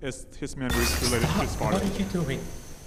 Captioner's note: object smashes